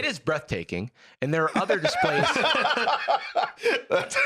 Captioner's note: laugh